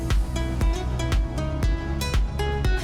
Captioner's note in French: none